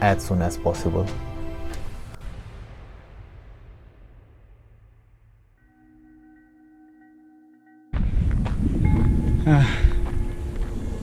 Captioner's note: sigh